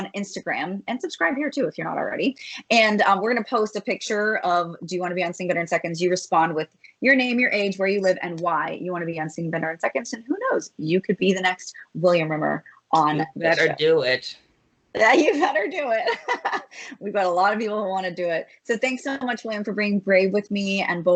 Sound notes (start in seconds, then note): 13.2 laughs